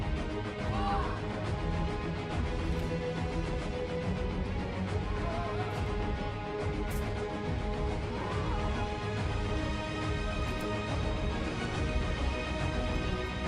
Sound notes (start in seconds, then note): 0.7 children exclaiming; 5.2 children exclaiming; 6.8 sword swishing; 8.2 children exclaiming